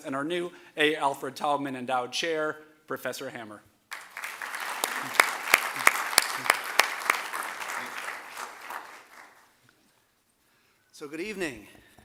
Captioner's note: applause